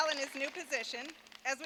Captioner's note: applause